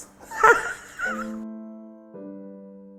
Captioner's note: laughs